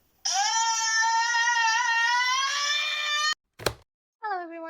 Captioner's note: screams